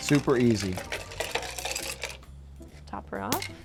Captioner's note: ice cubes falling into muddler